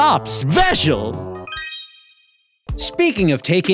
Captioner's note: chimes